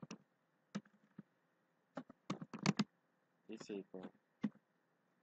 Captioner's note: typing